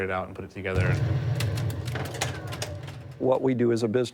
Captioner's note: game ship sinks, balls rattle